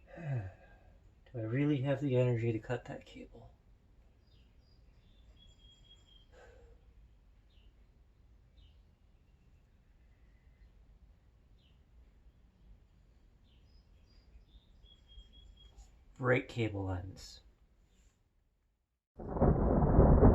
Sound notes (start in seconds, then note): 13.1 bird song